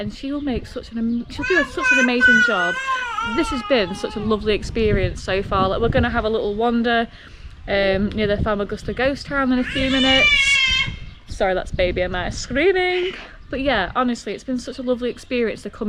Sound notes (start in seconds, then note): 9.6 baby screaming